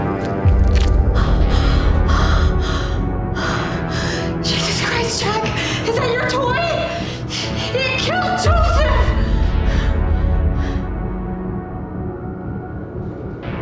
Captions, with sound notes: (Carol gasping) - Jesus Christ, Jack. Is that your toy? It killed Joseph. (gasping)